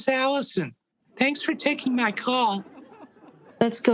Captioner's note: audience laughing